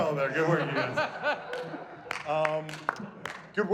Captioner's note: laughing and applauding